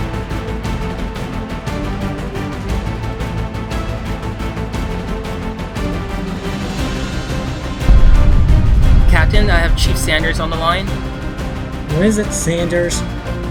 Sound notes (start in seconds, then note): 7.8 explosion rumbles